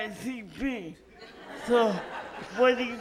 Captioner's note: audience laughs